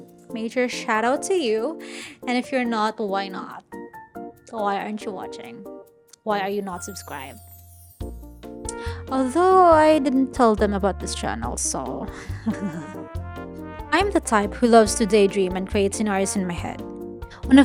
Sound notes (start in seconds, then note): 12.2 giggles